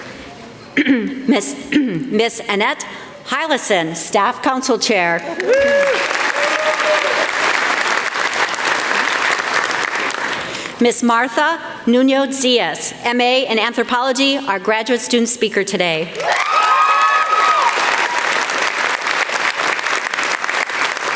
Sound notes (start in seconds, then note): 0.2 applause; 20.8 applause